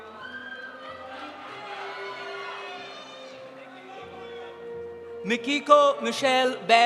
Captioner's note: audience cheering; audience applauding